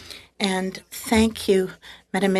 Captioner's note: speaking French